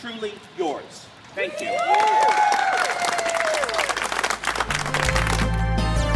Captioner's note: applause and cheering